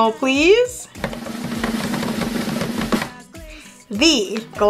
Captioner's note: drumming on table